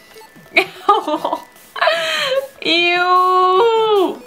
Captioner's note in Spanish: risas